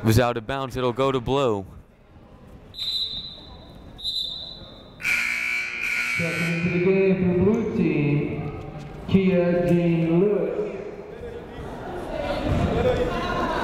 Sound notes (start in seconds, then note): 3.9 double whistle blowing; 5.0 double buzzer sounding